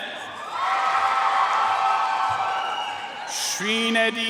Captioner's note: audience cheering and applauding